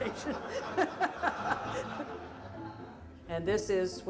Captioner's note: all laughing